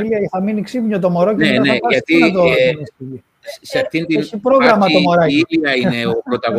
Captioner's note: γέλια